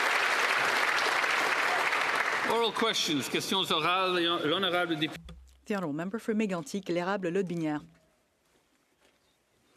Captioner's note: applause